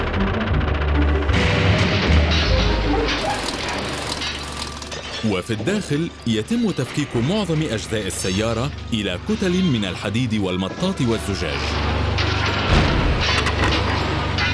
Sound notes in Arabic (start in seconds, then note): 1.5 معدن يُغلق بعنف; 2.2 خشخشة أدوات; 3.8 دوران آلة; 11.6 قعقعة